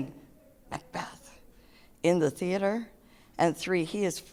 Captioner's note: whispers